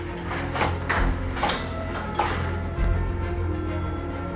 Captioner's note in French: sirènes au loin